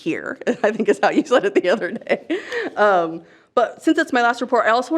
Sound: chuckles

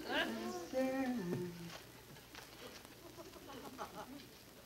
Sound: Joan humming; laughs; audience laughing

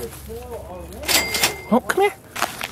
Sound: cashier register opening sound effect

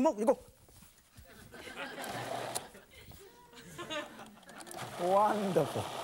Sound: audience chuckles

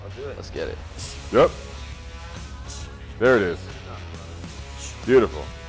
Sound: heavy sharp breathing

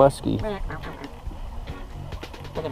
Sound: quacking

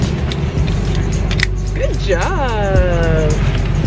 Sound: seatbelt clicks

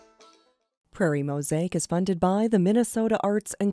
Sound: voiceover

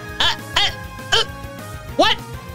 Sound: choking

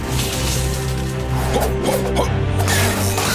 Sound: grunting

